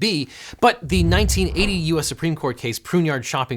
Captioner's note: air whooshing